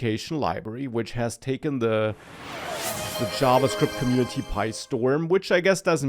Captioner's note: chiming sound